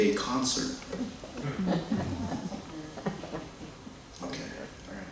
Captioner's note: laughter